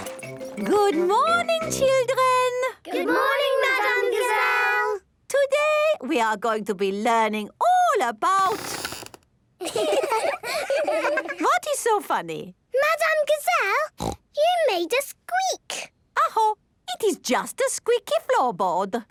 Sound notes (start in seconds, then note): 8.7 squeaks; 9.6 laughing